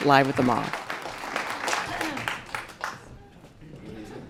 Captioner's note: audience clapping